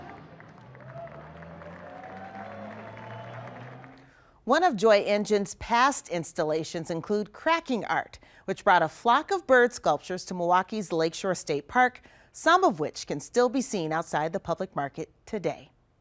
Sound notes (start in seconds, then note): 2.6 applause